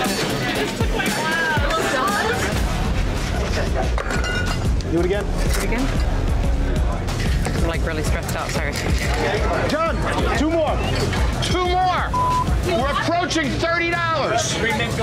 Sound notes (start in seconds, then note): 12.1 beep